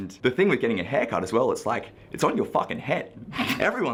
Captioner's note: laughing